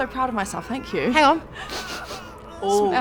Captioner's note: sniffs